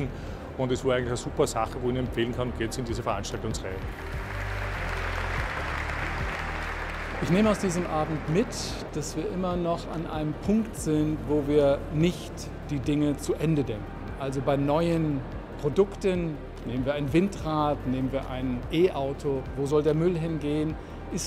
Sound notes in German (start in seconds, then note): 3.6 Applaus und Hintergrundmusik